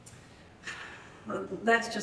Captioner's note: sighs